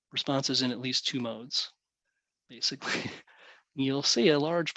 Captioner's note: chuckles